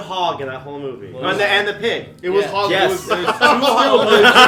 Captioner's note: laughter